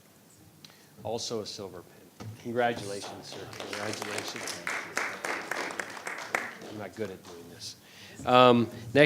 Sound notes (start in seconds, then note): 2.8 audience applauding